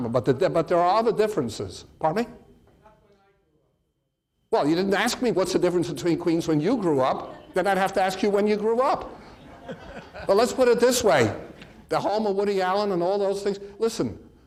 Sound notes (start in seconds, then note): 8.7 audience laughs